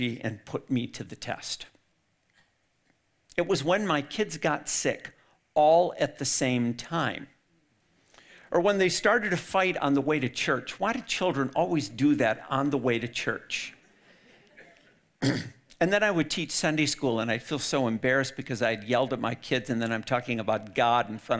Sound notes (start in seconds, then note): 14.0 audience laughing